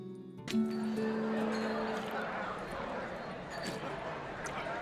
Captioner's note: indistinct chatter